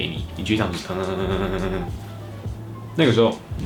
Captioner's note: simulated message vibration